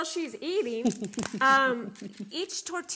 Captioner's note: chuckles